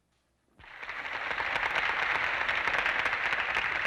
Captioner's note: applause